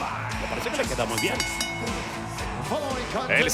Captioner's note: laugh